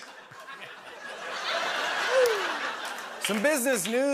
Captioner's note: fresh laughter